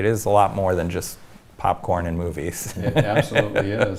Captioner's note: laughs